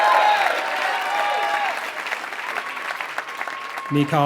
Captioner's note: applause